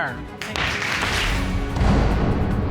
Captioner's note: pounds gavel